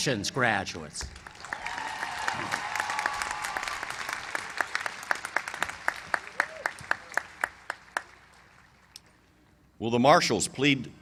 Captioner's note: applause